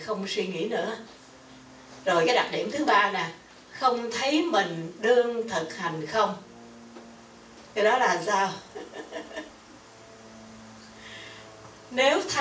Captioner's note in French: rires